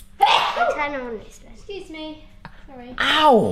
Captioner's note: sneezes; murmurs